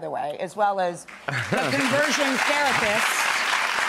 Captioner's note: clapping